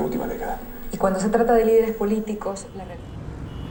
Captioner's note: president talking in Spanish